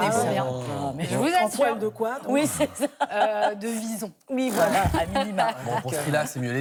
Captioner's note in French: rires